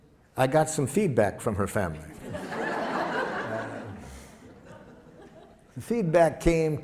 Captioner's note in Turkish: Gülüşmeler